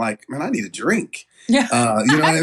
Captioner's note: laugh